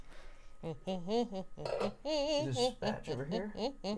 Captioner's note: humming